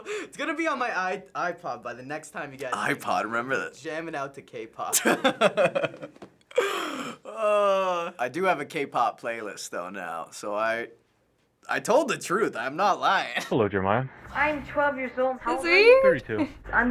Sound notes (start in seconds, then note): 0.0 laughing; 4.9 laughing; 6.5 groaning